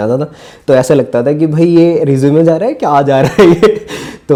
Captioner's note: laughs